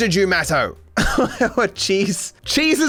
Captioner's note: laughs